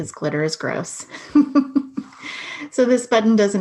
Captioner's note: laughing